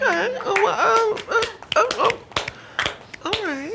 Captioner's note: audience claps slowly